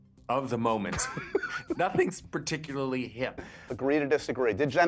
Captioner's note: laughing